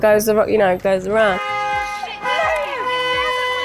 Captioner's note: car horn honks